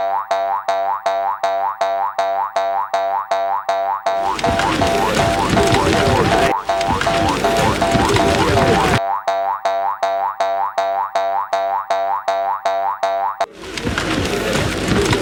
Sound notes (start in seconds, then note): 2.4 boing-Boing Sound; 2.4 sound of people and animals running